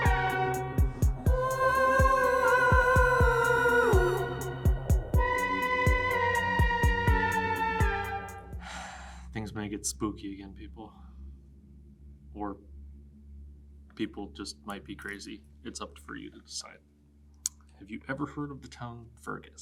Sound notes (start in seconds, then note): 8.6 sighs